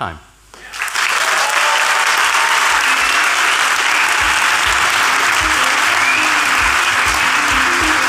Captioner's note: applause